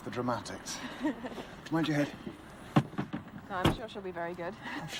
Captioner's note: Louise laughing